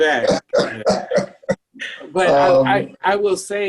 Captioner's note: laughs